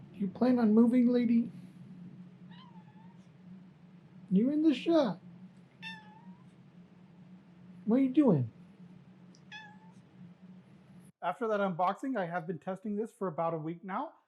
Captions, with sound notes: You plan on moving lady? *small meow* You’re in the shot. *bigger meow* What are you doing? *regular meow* After that unboxing, I have been testing this for about a week now.